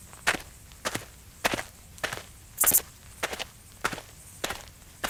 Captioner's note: footsteps crunching